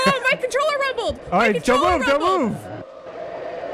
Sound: laughs

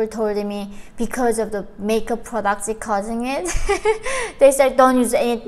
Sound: chuckles

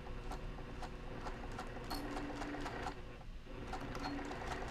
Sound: machine whirring

